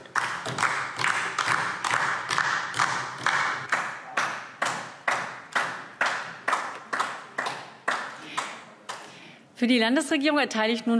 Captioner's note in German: Beifall DIE LINKE